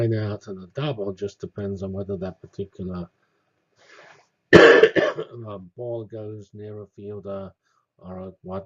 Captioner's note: cough